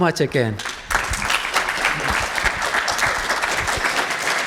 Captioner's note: audience claps